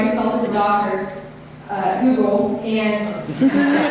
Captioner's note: audience laughter